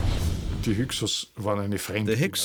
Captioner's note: speaking German